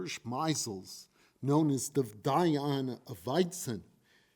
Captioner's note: foreign language